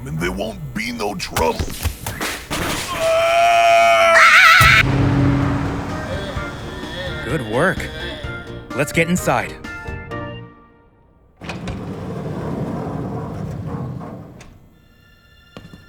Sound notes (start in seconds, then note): 2.5 punching, kicking, screaming; 2.8 meowth screams; 2.9 distant yelling getting closer; 4.6 loud bang